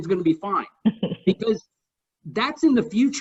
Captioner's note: laughs